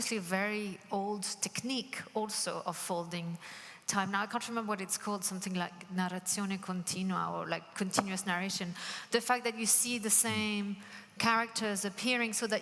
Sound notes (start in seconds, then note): 6.3 speaking Italian